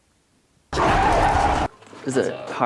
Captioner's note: creatures growling